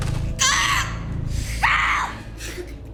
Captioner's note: Alejandra screams